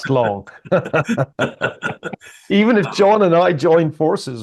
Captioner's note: laugh